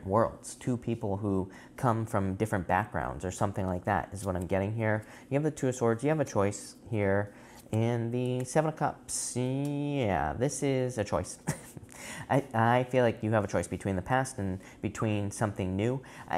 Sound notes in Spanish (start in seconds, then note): 11.4 Risas